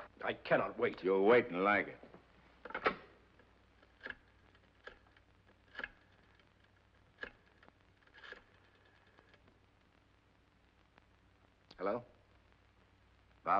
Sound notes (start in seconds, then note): 2.6 phone clatters; 4.0 rotary phone dials